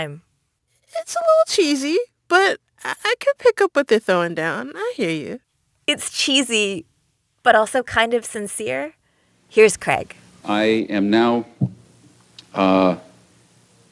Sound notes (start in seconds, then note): 9.8 soundbite of archived recording